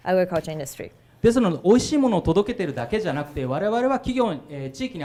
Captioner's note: speaking foreign language